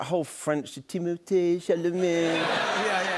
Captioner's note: French accent